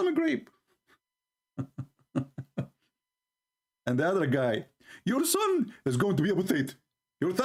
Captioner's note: Ketawa